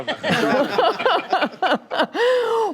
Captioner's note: laughter